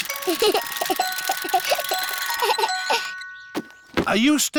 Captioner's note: alexander giggles